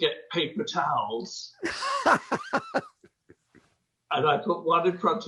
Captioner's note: laughing